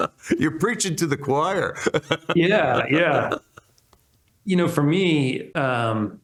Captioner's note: laughs